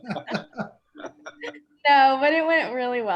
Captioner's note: laughter